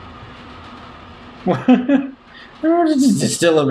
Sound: laughing

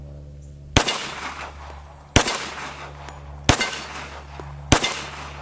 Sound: gun shots

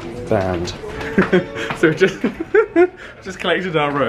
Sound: laughs

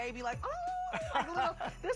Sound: laughs

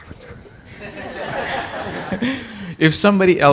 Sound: laughter

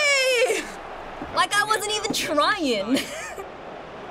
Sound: laughing

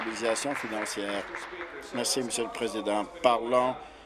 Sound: applause

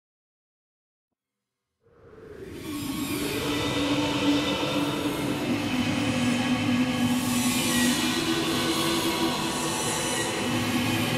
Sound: sound of ghost town

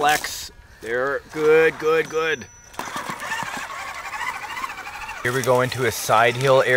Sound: engine noise

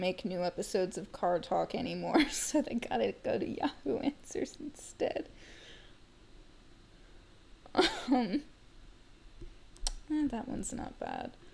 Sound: laughing

